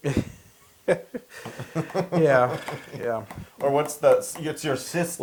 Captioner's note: laugh